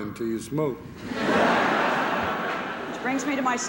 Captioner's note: laughter